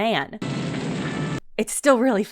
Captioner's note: fire roaring